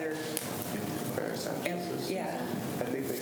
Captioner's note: faintly speaking